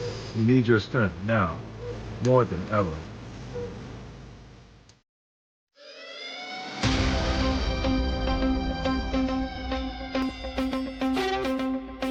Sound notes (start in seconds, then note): 5.8 siren blaring; 6.6 dramatic music